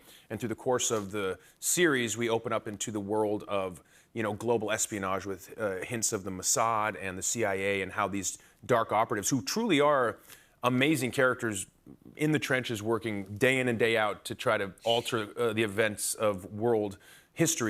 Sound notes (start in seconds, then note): none